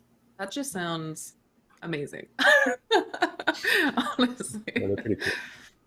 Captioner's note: chuckles